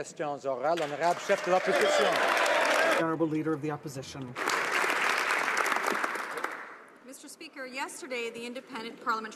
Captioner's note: applause